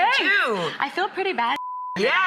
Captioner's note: beep